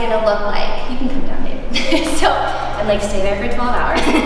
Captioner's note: laughs; laughing